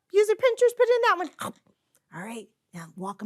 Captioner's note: imitates biting noise